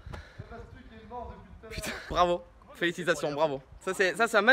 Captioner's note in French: rire